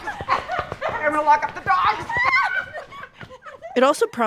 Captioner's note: both giggling; both shrieking, laughing